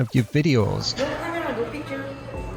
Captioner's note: korean Lady Speaking